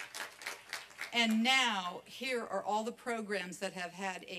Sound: applause

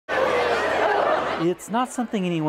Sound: crowd coming in

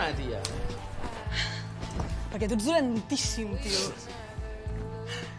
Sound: sighs; sighs

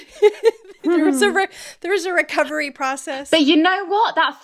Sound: laughing

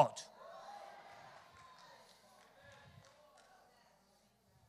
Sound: congregation cheers

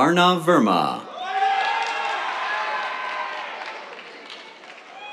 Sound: cheers, applause

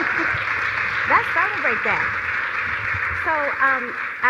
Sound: applause

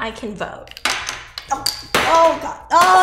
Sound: bottles crashing

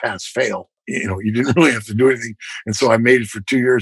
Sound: laughter

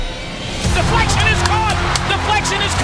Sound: voiceover

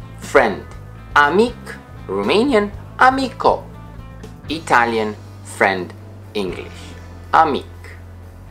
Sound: Italian

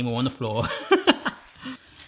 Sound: laugh

